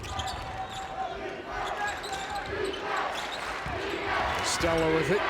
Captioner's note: crowd chanting